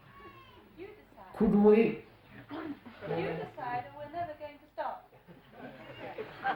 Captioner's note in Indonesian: Tertawa